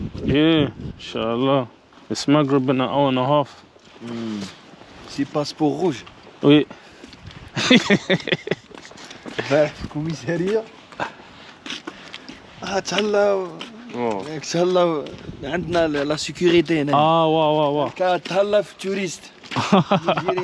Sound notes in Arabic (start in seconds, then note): 7.5 يضحك